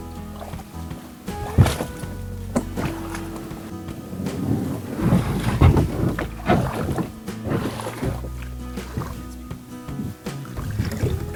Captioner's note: sound of kayak being dragged over rocks